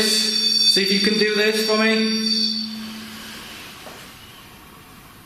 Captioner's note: device squealing